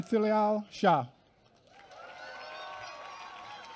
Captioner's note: applause